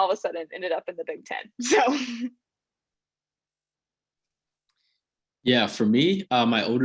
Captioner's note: laugh